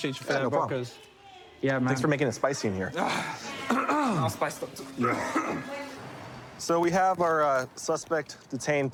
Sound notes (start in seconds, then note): 3.7 clears throat; 4.9 coughs